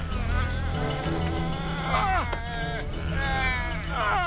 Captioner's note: grunts, Groans; shrieking